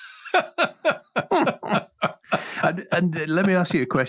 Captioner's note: both laugh